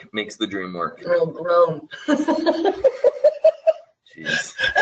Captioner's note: laughter